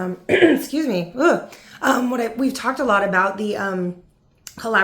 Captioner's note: coughs